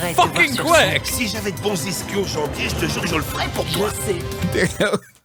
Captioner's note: speaking in French